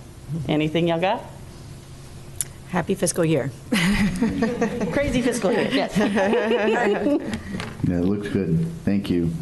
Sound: laughter

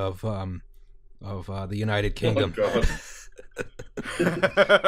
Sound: laughter

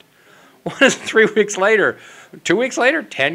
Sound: laughs

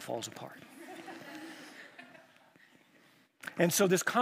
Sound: chuckles

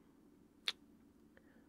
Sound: kiss

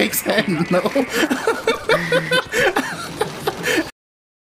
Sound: laughing; chuckles

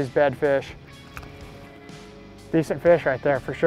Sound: fish thrashes

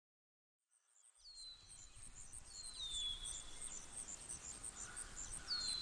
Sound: birds chirping

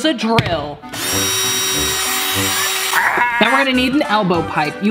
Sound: drilling

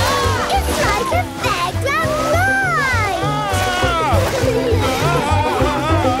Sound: screams, laughs; screams, laughs

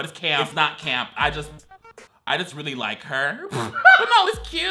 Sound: laughs

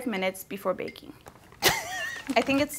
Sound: laughing

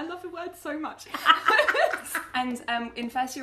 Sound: laughing

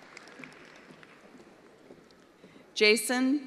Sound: attendees applauding

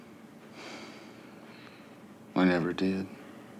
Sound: sighs

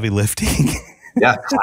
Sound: laugh

